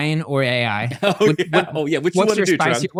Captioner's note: laughing